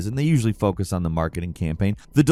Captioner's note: none